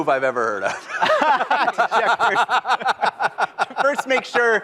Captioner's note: laughter